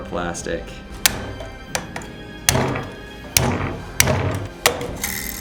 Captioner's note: plastic crunching